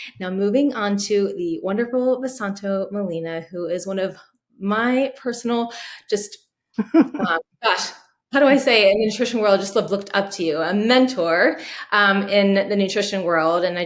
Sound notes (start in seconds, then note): 6.8 laughs